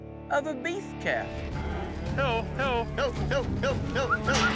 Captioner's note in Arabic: ينادي